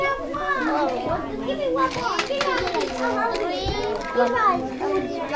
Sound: students chattering

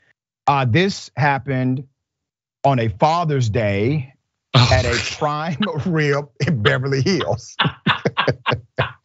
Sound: laugh

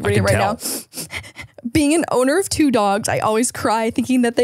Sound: sniffles

